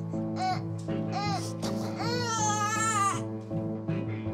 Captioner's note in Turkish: Bebek ağlıyor